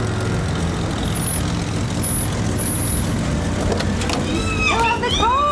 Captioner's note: brakes squeal, car door opens; ellie squealing